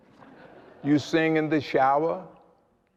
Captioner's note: laughter